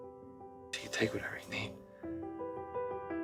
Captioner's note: voiceover